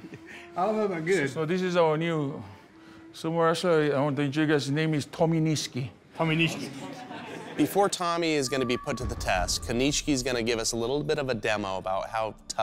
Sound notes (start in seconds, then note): 6.6 laughter